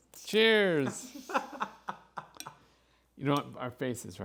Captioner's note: laughs